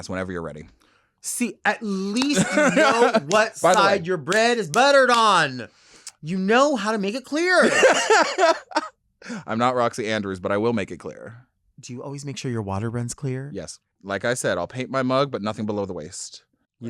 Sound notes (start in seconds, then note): 7.6 laughing